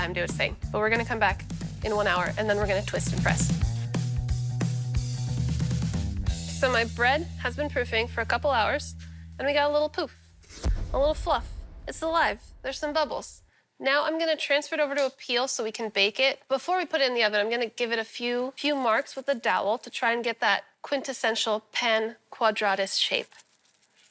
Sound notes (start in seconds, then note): 3.1 upbeat music; 10.3 blasting